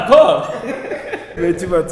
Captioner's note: laughs